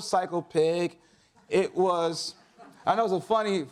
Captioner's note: audience laughs